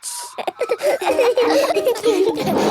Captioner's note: all laughing